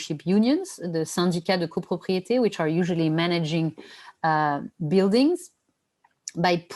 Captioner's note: non-english speech